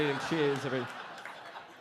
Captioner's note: audience laughing